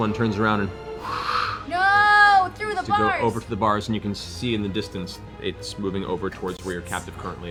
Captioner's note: whooshing sound